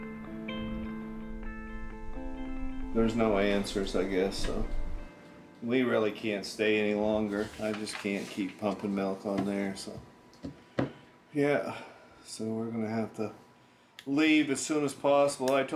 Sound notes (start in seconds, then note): none